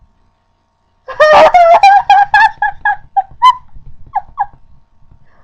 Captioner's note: disbelieving laughter